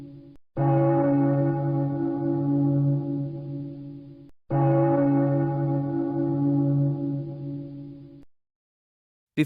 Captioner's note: bell tolling